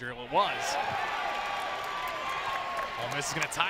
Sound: crowd cheers

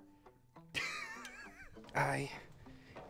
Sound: wheezes

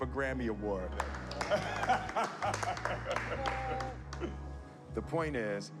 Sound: laughing

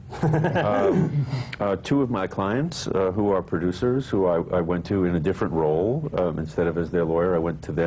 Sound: laughter

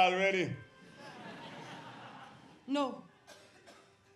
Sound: audience laughs

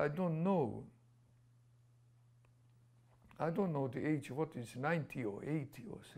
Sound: pauses for 3 seconds

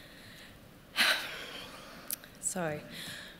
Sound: exhales

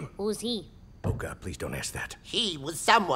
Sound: quietly

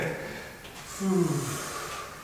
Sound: breath out

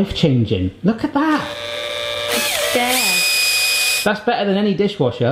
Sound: whirring

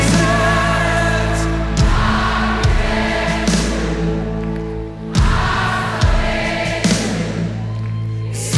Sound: crowd

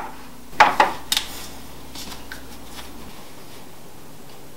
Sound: dusting sounds

